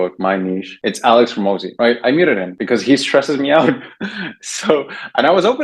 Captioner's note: laughs